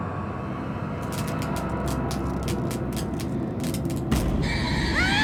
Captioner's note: lights crackling; Andrew screams